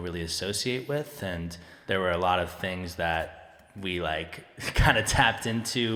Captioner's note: chuckling